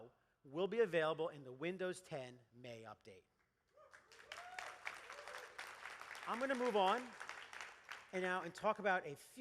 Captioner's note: applause